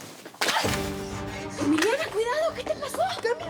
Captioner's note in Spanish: ruido al desplomarse